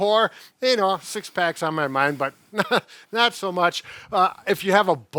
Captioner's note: laughs